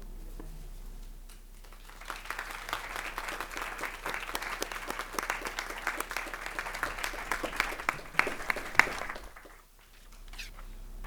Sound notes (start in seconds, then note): 1.6 crowd applauding